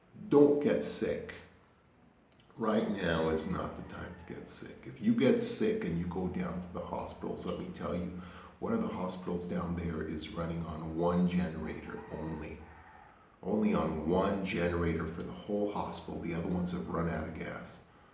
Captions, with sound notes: don't get sick. right now is not the time to get sick if you get sick and you go down to the hospitals, let me tell you, one of the hospitals down there is running on one generator only (rooster noises) only on one generator for the whole hospital, the other ones have run out of gas.